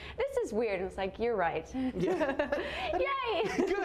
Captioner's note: laughs